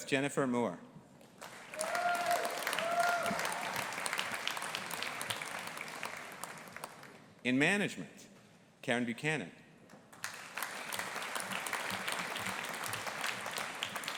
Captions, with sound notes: Beth Jennifer Muir. (AUDIENCE APPLAUDING AND CHEERING) In Management, Caron Buchanan. (AUDIENCE APPLAUDING)